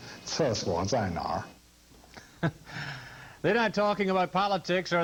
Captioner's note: chuckles